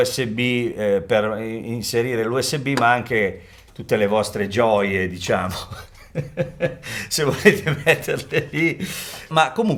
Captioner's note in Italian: risate